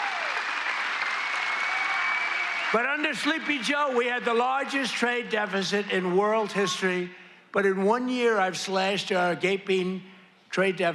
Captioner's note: cheers and applause